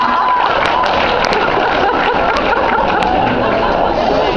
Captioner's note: laughs, applauds